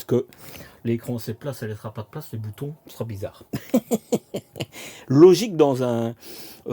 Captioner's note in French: rires